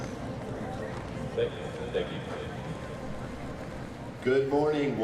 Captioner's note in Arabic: ثرثرة في الخلفية